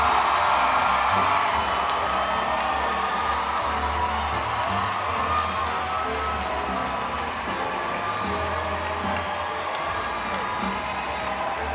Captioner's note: applause